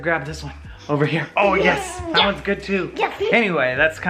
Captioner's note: baby laughs